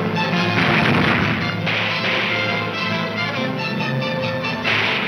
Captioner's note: gunshots banging